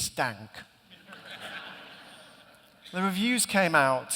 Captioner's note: laughter